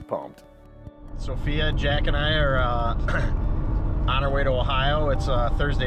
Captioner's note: clears throat